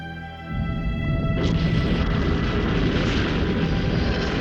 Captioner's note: dark music; rocket whooshing